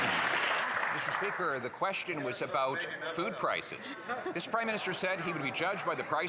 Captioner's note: some Applause